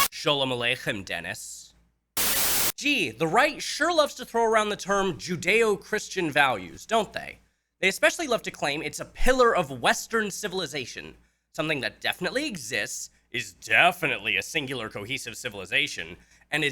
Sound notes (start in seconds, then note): 2.2 Static